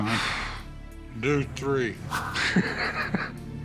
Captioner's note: laughs